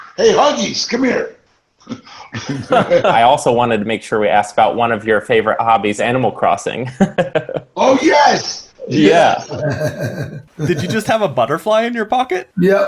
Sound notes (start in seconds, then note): 1.8 laughs; 7.0 chuckles; 9.4 chuckles